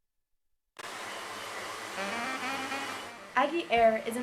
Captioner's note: propeller spinning